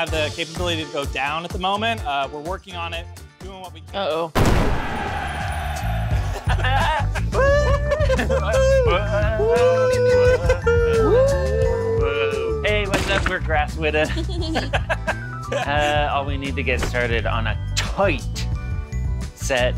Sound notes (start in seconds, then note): 6.1 laughing; 8.4 cheering